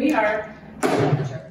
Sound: gavel hits table

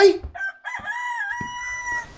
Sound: rooster crying

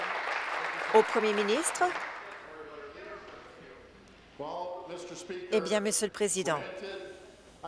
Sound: applause

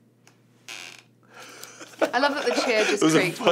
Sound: chair creaks; laughs

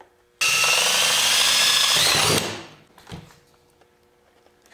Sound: drill whirring

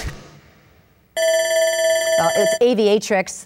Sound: dinging

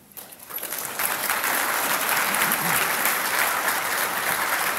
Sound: audience applauds

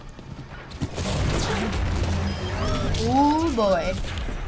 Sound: reverberating gunfire

